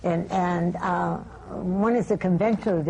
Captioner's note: none